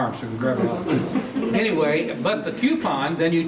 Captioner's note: laughing